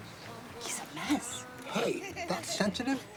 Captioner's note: boys laughing